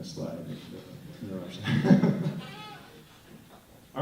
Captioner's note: laughter